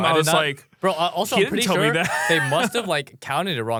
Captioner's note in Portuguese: risos